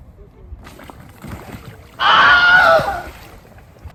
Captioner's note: Wilhelm Scream